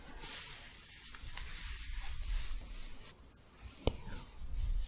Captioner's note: staticky shuffling